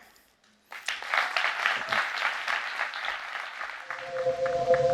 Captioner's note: audience clapping